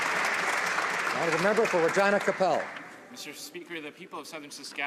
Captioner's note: some Applause